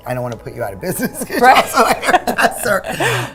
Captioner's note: women laughing